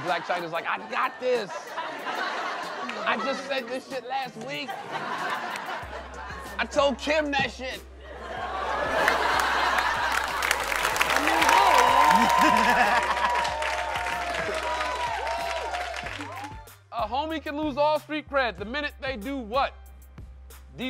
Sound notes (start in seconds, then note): 8.0 laughter; 11.7 laughter; 15.1 applause